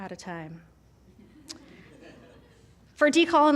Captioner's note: laughter